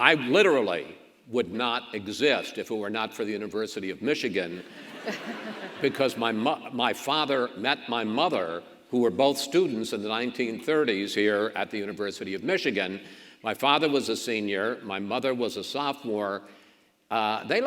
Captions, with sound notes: I literally would not exist if it were not for the University of Michigan, (audience laughs) because my father met my mother who were both students in the 1930s here, at the University of Michigan. My father was a senior, my mother was a sophomore,